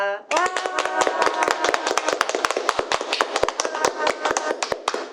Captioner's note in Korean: 박수